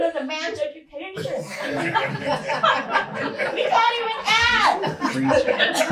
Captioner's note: laughter